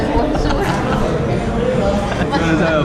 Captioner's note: laughs